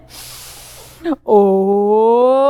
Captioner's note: inhaling